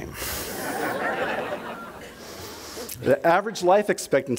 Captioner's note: audience laughter